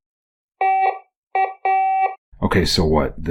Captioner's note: beeping